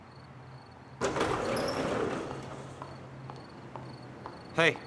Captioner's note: doors sliding